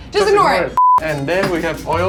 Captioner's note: beep